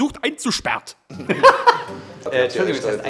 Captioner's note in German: Lachen